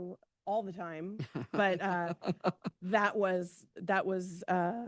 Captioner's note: laughs